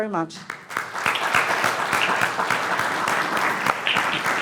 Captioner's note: clapping